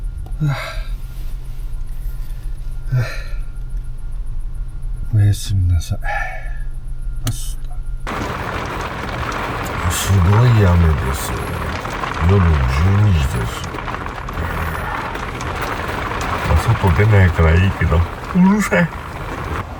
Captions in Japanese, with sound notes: おやすみなさい （大きな雨の音） 夜の12時です… 外に出ないからいいけどうるさい